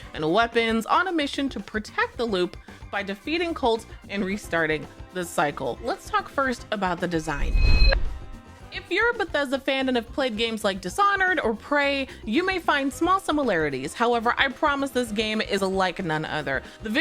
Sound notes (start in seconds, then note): 7.2 air whooshing